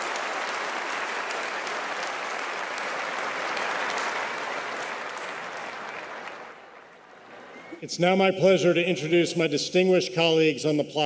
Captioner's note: applause